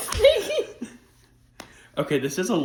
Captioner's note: laughter